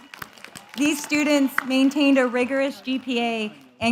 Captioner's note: cheers